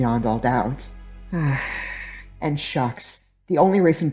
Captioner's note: groaning sigh